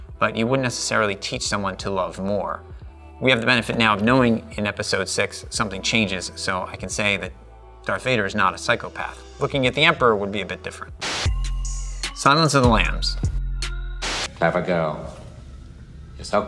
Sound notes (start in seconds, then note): 10.8 dark electronic music; 11.0 static hisses